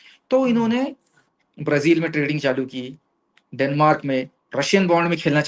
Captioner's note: nasal voice